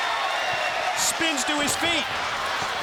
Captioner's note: crowd cheering